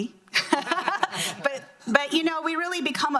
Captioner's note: laughing